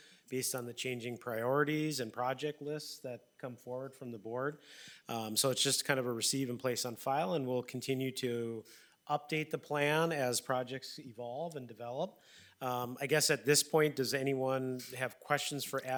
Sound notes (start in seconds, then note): none